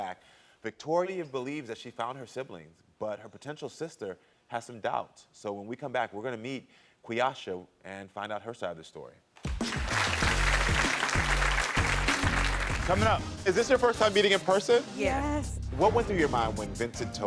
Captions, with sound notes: Victoria believes that she found her siblings, but her potential sister has some doubt. So when we come back, we're gonna meet Queeacha and find out her side of the story. (audience clapping) (upbeat music) Coming up. Is this your first time meeting in person? - Yes. - Yes. - What went through your mind when Vincent told you